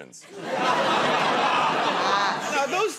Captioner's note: laughter